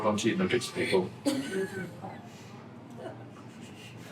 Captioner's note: laughs